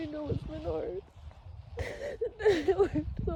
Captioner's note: sobs lightly through words